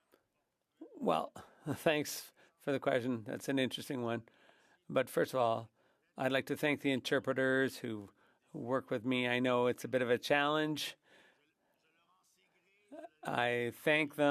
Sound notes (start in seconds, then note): 7.6 speaking French